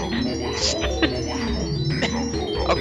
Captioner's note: dunkey laughs